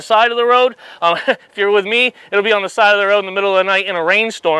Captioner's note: chuckles